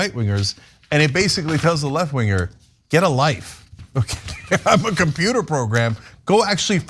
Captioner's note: laugh